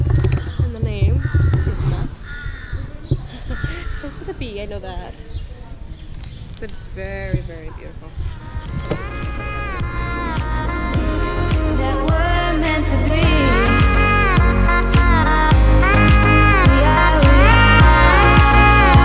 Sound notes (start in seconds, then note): 3.2 chuckles